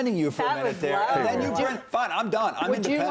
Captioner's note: laughter